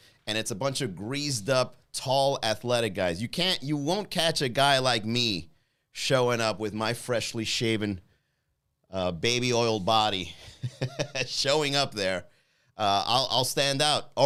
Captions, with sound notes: And it's a bunch of greased up tall athletic guys. You won't catch a guy like me showing up with my freshly shaven baby oiled body, (laughs) showing up there. I'll stand out.